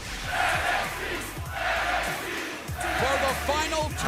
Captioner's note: fans chanting